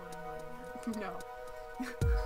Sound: laughs

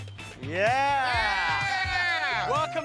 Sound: cheering

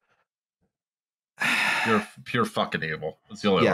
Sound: sighs

